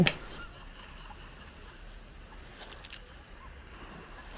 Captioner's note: children laughing